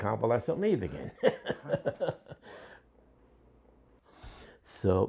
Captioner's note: laughs